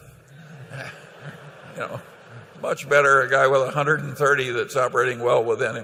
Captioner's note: laughter